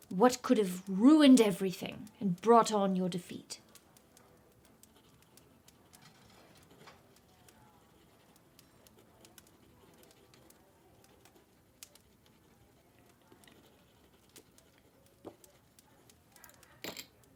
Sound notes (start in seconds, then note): 9.3 fire crackling